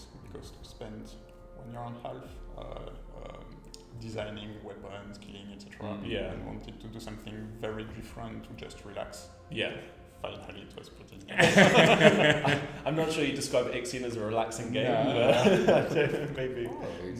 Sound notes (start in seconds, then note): 11.3 laughs; 11.4 all laugh